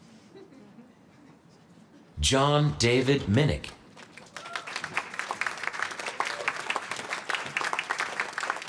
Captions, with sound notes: John David Minnich. [APPLAUSE]